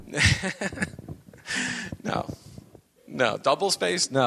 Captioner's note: laughs